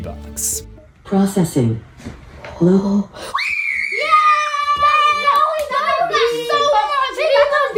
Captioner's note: screams